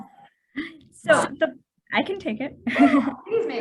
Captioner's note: laughter